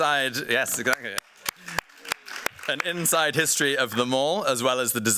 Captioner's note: applause